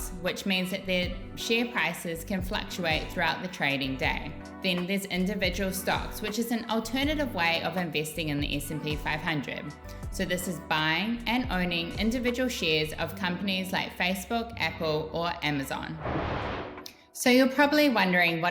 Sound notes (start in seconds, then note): 16.0 image whooshing